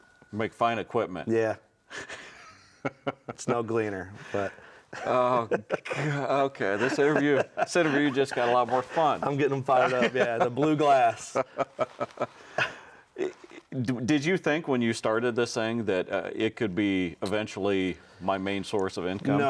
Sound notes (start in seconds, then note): 1.9 laughs